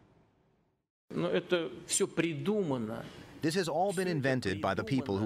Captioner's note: through translator